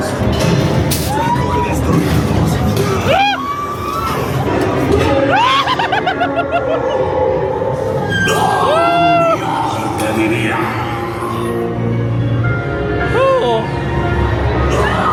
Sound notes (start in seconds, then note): 0.2 scareactor faintly speaking; 2.9 scareactor grunting; 5.3 everybody screaming; 5.3 spooky music; 8.6 scareactor grunting; 11.7 spooky music